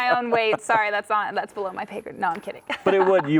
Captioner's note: laughs